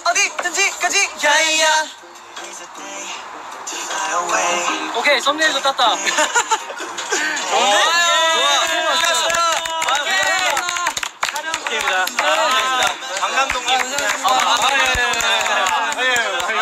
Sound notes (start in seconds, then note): 11.9 claps